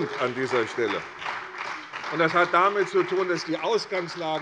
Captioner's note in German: Beifall bei der CDU und dem BÜNDNIS 90/DIE GRÜNEN